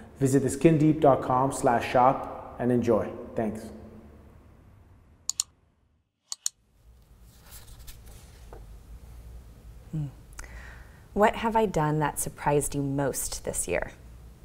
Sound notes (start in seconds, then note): 5.3 clicking; 7.4 scribbling